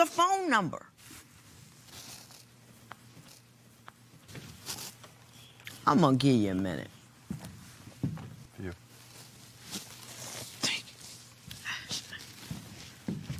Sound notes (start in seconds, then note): none